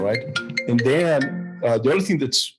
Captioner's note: mobile phone ringing